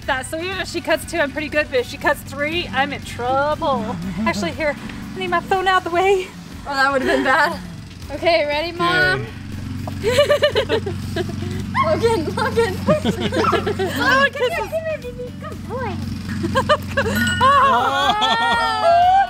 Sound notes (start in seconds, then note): 9.9 laughing; 16.2 laughing; 17.1 ding